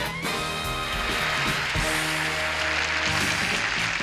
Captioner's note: applause; upbeat music